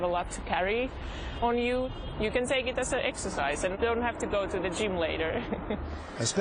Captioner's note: laughs